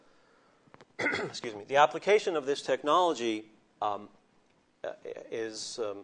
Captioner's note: clears throat